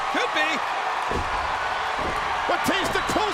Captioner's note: crowd cheering